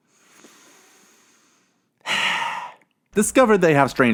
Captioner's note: deep breathing